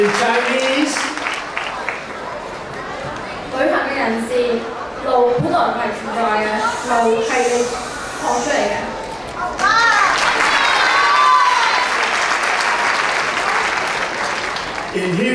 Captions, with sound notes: In Chinese. (speaking in foreign language) (clapping) In Hebrew.